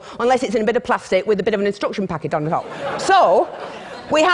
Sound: laughter

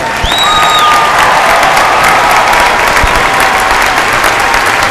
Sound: cheers and applause

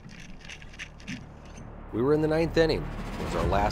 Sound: flapping

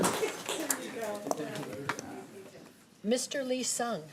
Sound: group chatter

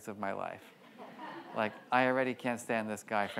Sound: audience laughs

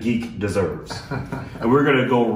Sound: laughing

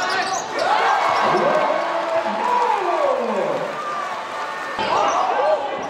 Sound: crowd cheers; announcer yells

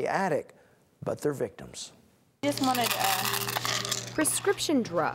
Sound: sounds in a pharmacy

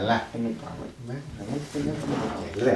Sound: Matt mumbling

